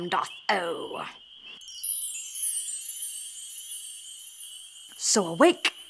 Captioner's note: chimes ring